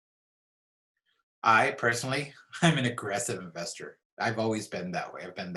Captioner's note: laughs